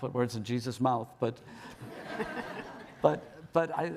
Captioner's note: audience laughing